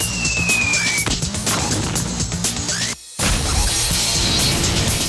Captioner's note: explosion booms